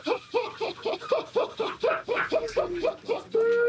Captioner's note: laughing